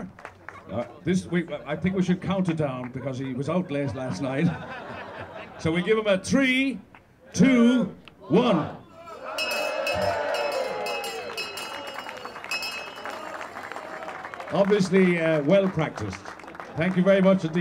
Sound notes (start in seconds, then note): 0.0 clapping; 5.5 laughing; 9.2 bell ringing; 10.2 cheering; 15.1 clapping